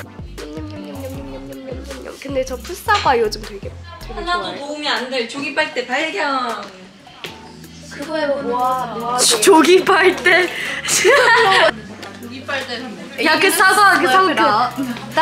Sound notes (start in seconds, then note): 8.0 hushed whispers